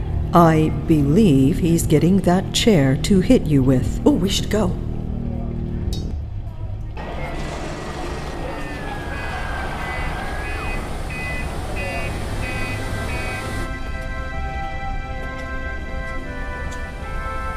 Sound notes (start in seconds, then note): 7.0 dockside noises; 12.8 incidental music